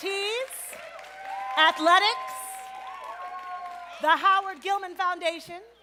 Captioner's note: applause